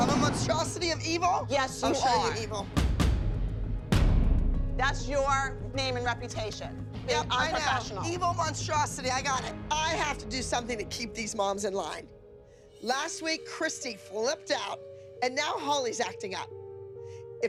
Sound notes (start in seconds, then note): none